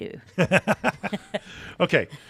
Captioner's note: both laughing